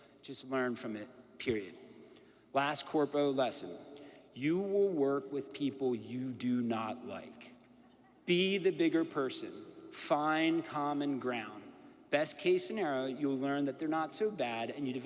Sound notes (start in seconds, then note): none